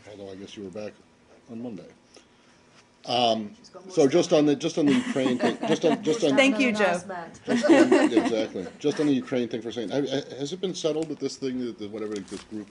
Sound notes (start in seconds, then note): 4.8 laughter; 7.5 laughter